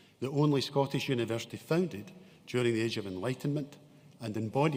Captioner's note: none